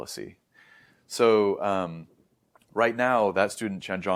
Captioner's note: inhales; swallows